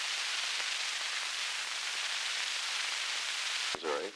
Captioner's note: Murrow, mumbling